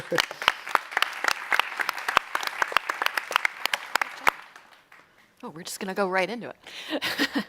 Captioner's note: applause